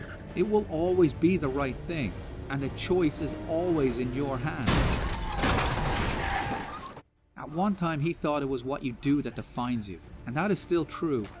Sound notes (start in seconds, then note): 4.5 car smash; 4.6 breaking glass; 5.0 screeching